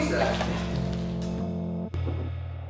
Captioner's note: out of breath